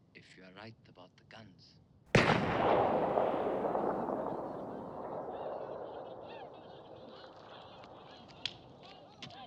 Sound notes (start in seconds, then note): 2.1 gun fires; 2.2 people chattering